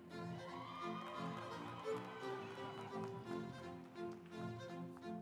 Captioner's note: audience applauds